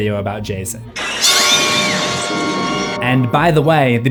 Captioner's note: glass shatters